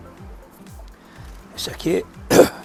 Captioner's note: cough